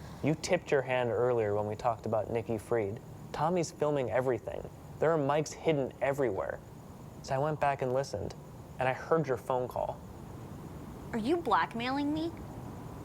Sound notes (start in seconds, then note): none